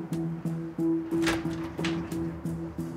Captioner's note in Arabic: يفتح الباب